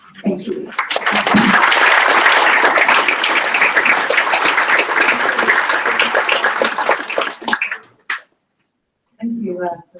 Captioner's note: applause